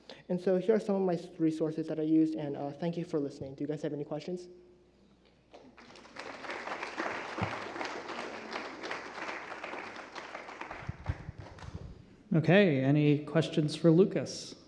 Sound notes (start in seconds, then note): 5.5 applause